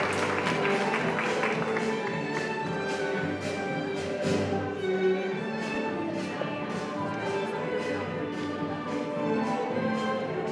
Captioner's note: applause